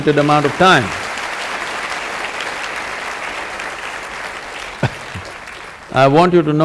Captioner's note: applause